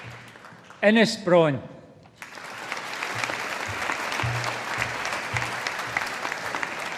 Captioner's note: audience applauding